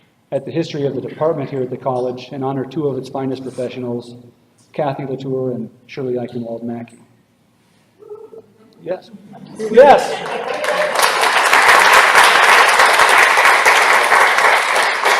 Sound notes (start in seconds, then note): 9.6 cheering; 9.8 applause